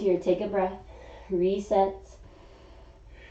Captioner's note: exhaling; inhaling